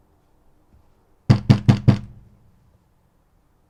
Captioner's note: knocking